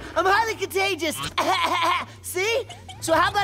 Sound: coughing

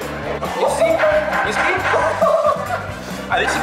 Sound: clunk, clunk, clunk

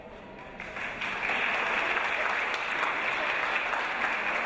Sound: audience applause

